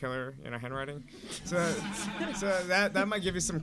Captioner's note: audience laughing